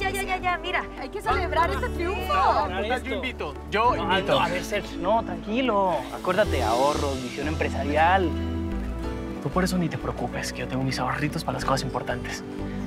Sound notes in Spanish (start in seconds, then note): none